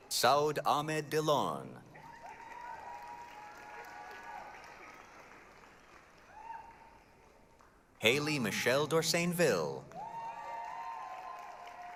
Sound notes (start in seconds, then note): 1.9 applause, cheering